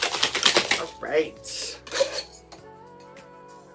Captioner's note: shaking